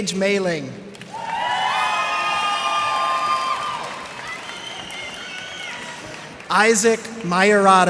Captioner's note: cheers and applause